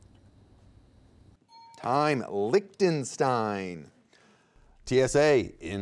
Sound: alarm clock ringing

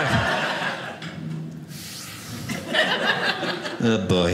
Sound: audience laughing

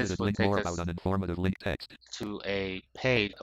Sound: screen reader voice

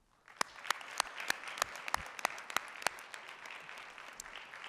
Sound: audience applauding

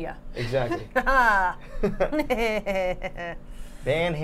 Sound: laughing; Safiya laughing

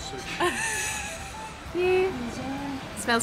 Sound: laughing

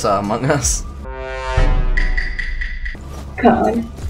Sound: Among Us sounds

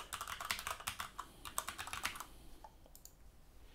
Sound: typing

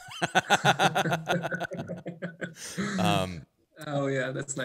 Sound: both laugh

